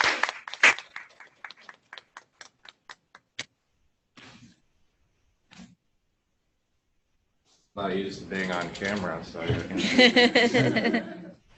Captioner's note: applause